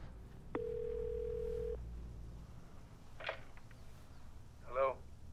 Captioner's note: phone ringing